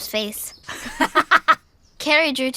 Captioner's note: laughs; mother laughs